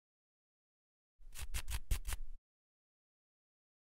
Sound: scratching

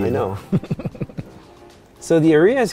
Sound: laughs

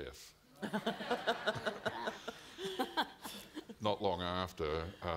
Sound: audience laughing

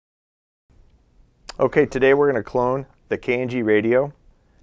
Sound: voiceover

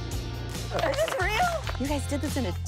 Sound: upbeat music; flip crew clapping

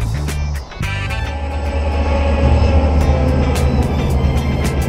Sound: sound of a train going

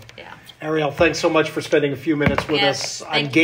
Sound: candy bowl thudding

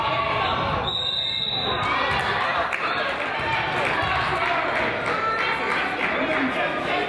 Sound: whistle blows; crowd applauds

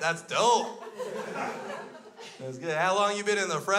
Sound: crowd laughs

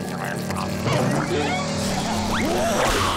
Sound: hissing

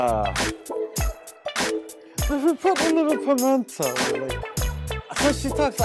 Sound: imitating Voice

